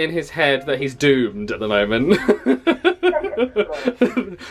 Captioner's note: laughs